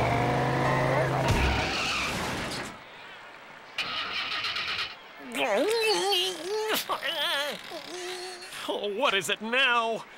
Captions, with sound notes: (ENGINE STALLING) (FRUSTRATED MOANING) Oh, what is it now?